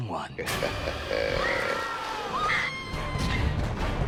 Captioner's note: menacing chuckle; screaming